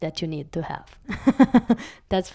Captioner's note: laugh